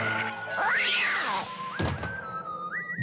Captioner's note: thud